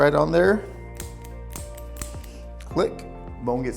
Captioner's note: device clicking